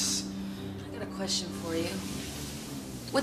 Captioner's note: car engine starting